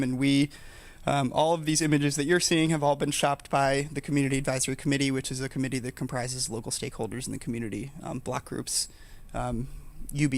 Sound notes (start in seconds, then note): none